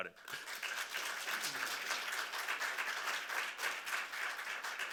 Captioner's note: audience clapping